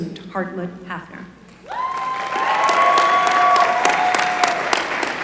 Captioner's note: applause